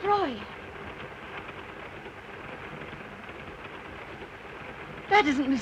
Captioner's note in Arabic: صوت خشخشة القطار